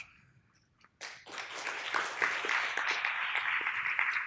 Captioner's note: applause